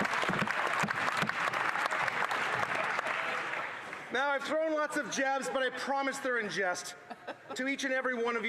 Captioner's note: some Applause